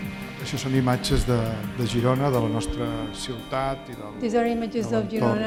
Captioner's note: speaking spanish